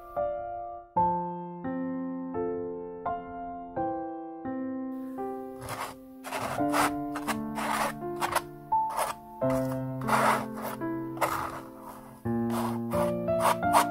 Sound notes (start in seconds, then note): 11.0 palette knife sounds